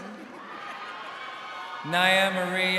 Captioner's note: crowd cheering